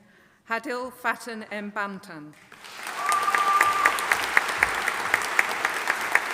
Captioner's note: audience applauding